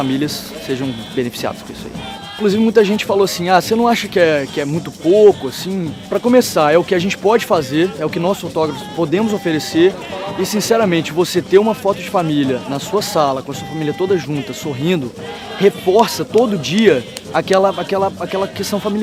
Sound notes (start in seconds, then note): 12.0 Arabic; 16.3 Vietnamese